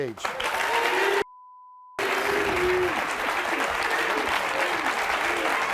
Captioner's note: audience clapping and cheering